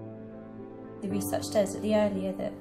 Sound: voiceover

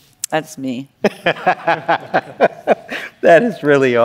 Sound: laughter

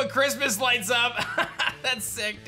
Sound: chuckles

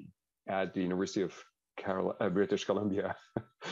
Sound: laughs

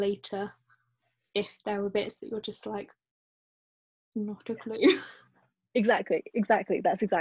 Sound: laughs

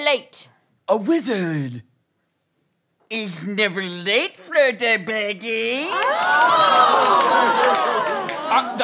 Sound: Gollum voice

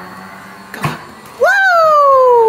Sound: machine whirs

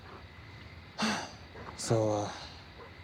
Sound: sigh

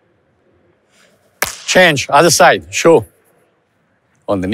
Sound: hands clapped

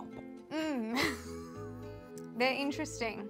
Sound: chuckling

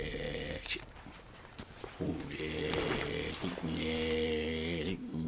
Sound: chanting in foreign language

